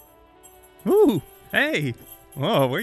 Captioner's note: jingle Jingle; jingling Cat Toy